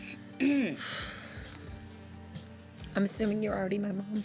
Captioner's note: sighs